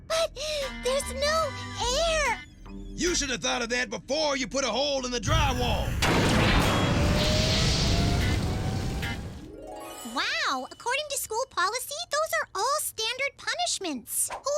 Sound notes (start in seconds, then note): 6.6 engines rumble